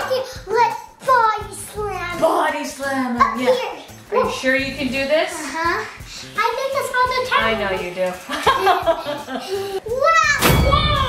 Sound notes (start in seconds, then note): 8.2 laughing